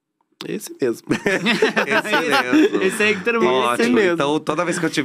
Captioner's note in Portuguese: risos